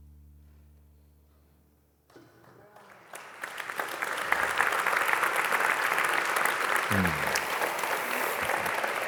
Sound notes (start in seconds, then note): 3.8 applause